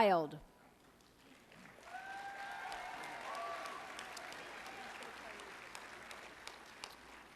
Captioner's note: applause